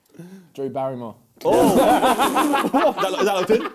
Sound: laughs

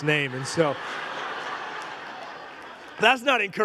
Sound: congregation laughing

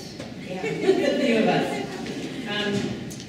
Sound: laughing

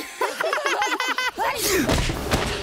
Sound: laughing; sneezing; laughing

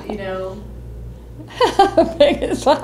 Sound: laughs

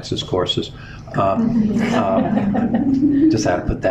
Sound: laughter

